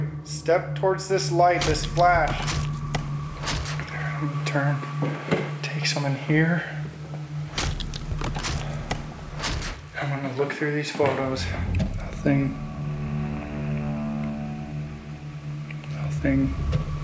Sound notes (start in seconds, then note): 2.2 camera clicking